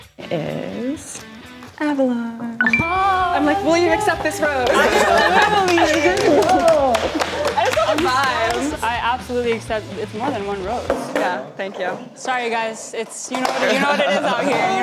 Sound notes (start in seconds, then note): 2.6 happy dinging; 4.7 everyone laughs; 10.7 skateboard crashing